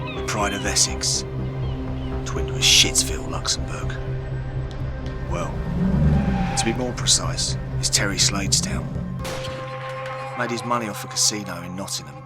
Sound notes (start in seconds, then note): 5.1 engine roaring